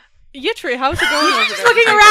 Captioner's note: laughter